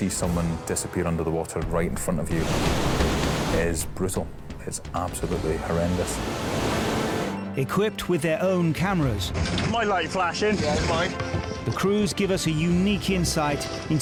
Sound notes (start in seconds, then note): 2.2 wave crashes; 6.0 water sloshing